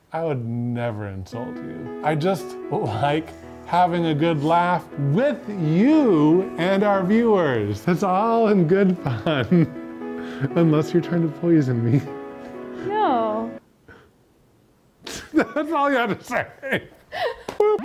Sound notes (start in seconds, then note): 1.7 soft music; 8.9 laughs